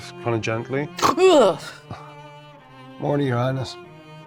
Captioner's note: snorting